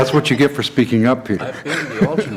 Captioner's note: laughter